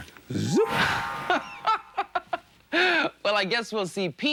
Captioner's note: LeVar laughing